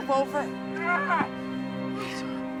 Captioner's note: Shanks screaming